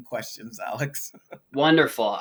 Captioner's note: laughs